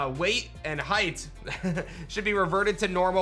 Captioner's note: chuckles